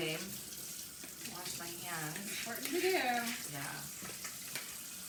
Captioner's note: running faucet offscreen